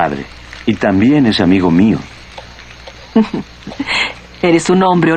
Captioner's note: sultry laugh